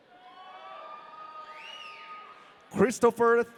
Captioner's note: audience cheering